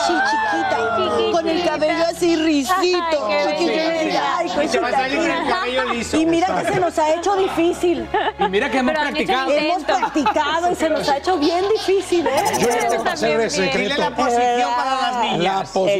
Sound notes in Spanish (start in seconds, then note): 9.8 risas